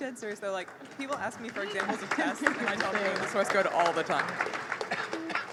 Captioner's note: applause